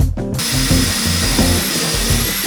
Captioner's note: drilling